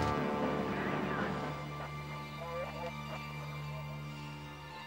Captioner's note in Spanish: ruido de radio